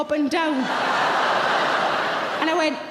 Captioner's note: audience laughing loudly